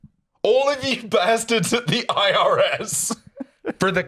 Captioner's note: laughing